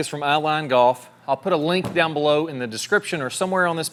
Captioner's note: bag thudding